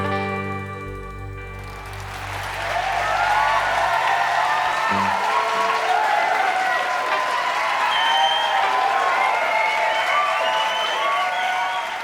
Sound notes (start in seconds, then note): 2.0 crowd clapping and cheering